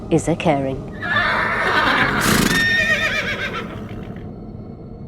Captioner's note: horses whinnying